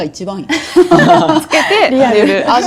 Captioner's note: laughs